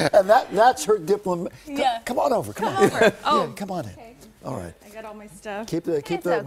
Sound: laughter

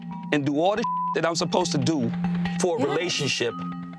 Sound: beep

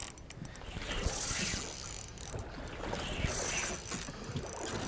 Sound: reel zipping

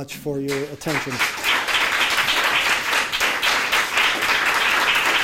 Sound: audience applauding

